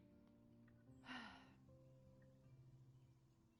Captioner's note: sighs